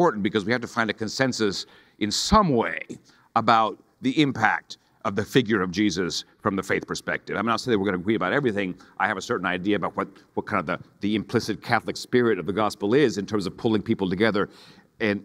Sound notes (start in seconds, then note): none